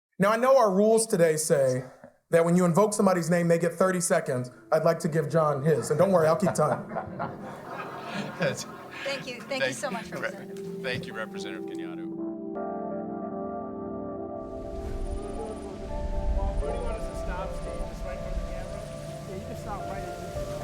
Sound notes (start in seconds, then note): 5.7 audience laughing; 12.4 gentle music; 14.9 people chattering